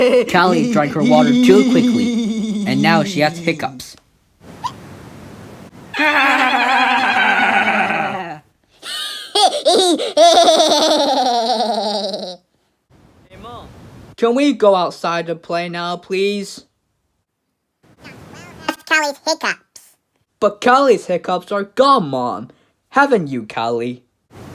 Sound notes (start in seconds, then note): 6.0 Florence And Paddington Laughing; 8.8 Marie Laughing